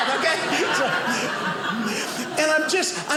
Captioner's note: audience laughing